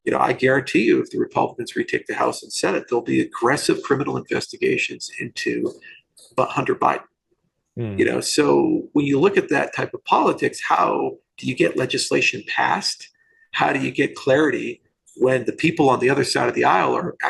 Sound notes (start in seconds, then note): 7.8 murmurs